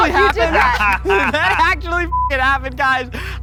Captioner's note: laughing